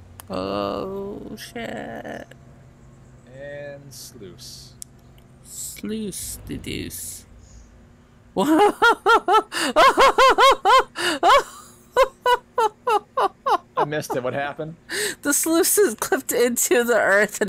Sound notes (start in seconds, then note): 8.4 laughs